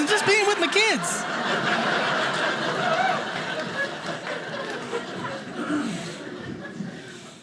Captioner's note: audience laughing